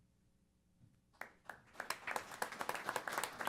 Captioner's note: applause